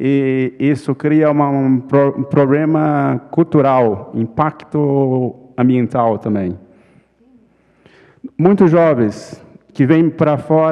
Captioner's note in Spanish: ponente habla en portugués